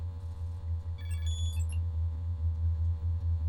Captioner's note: electronic beeping